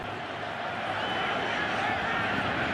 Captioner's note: crowd cheering